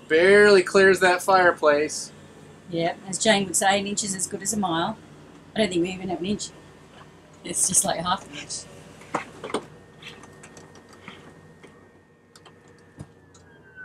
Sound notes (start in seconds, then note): 9.3 clicking